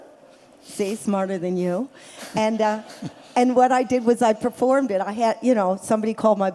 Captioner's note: laughter